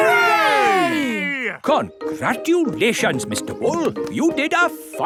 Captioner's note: none